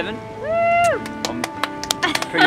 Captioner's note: cheers; people clap